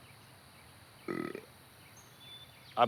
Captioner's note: burp